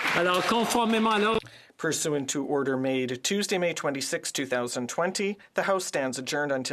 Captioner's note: applause